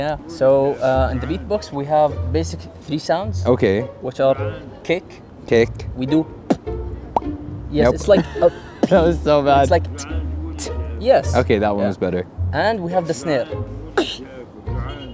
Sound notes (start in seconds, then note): 6.4 beatbox sound; 7.1 pop sound; 7.8 beatbox sound; 13.6 beatbox sound